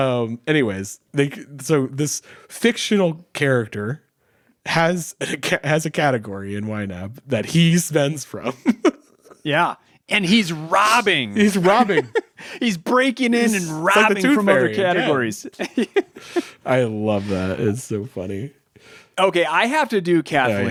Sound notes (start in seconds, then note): 8.4 laughing; 11.3 laughing; 16.6 laughing